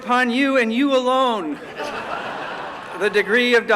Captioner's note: laughter